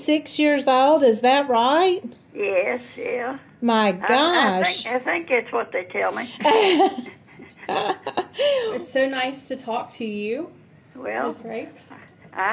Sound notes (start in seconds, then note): 6.2 laughs